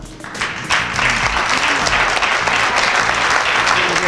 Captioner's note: audience applauds